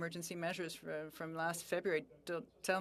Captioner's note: speaking French